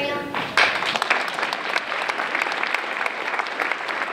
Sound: applause

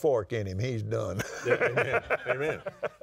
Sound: laughs

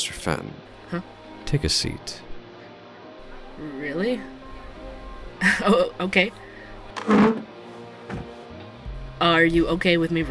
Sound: sound: pulling out a chair, sitting down

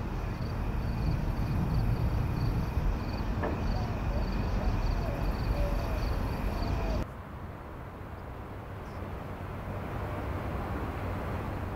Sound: crickets chirp

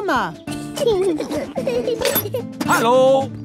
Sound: children giggling

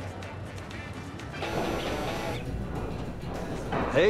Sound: cell phone buzzing

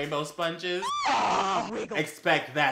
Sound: insert more orgasm sounds

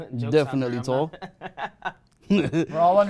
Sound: laughing

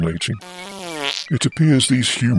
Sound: passing wind

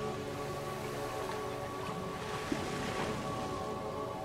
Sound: waves trickle

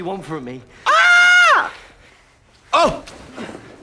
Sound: Trixie crowing

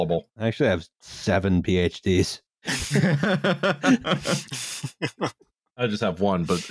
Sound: laughter

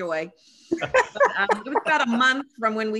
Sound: laughter

